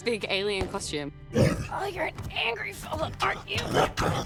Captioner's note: alien grunts; laughing